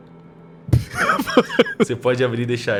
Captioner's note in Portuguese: risada